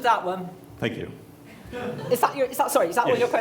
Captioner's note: voiceover